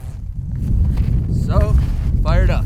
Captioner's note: wind blustering